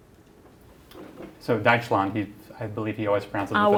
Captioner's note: non-english speech